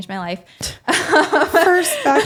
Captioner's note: laughs